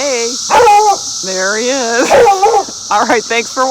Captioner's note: laughs